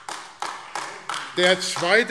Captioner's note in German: Beifall AfD